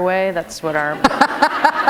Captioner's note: laughter